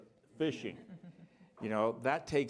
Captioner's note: chuckling